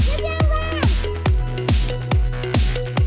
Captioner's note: cheers